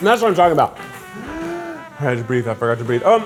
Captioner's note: inhaling